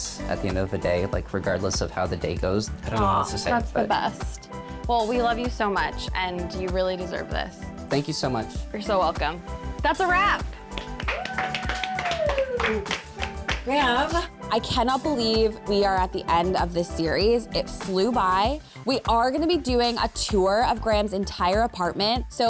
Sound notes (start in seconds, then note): 10.8 bright music; 10.8 crowd cheering